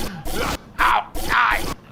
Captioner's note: Pleck makes horrified exclamations